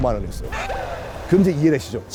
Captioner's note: gasp